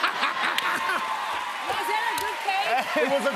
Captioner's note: cheers and applause